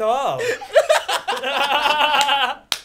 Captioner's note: laughs